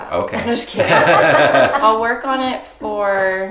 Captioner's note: both laughing